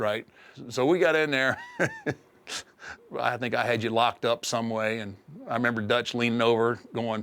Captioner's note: laugh